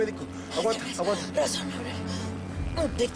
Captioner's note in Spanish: Habla entre jadeos